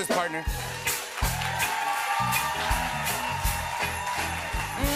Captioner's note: cheers and applause